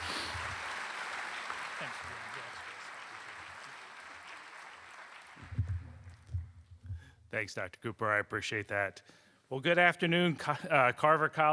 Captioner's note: applause